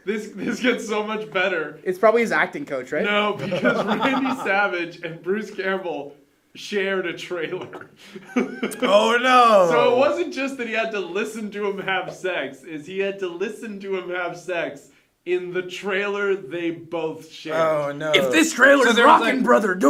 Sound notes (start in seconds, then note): 7.5 chuckles